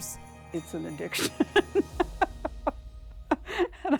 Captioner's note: laughs